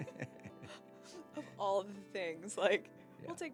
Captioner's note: laughing